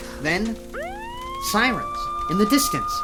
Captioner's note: siren wailing